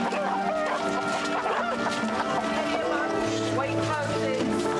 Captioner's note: dog barking; chicken clucking